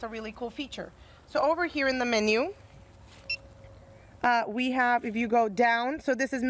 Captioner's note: beeps